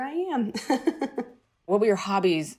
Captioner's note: laughter